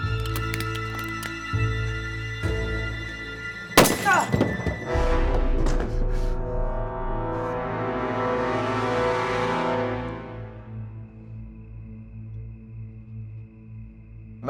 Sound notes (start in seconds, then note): 0.2 glass cracking; 3.8 gun shot, groan